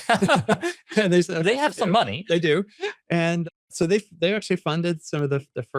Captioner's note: laughs